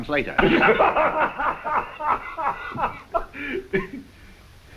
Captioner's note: Kuzminichna laughs